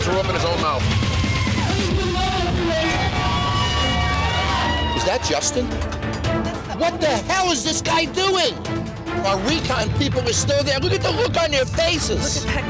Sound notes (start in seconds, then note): 2.8 women cheering